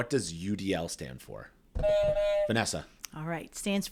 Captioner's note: honking sound plays